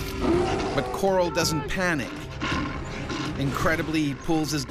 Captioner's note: voiceover